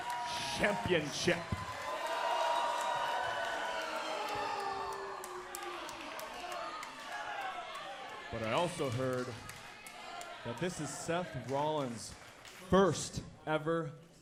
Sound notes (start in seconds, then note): 4.8 crowd cheering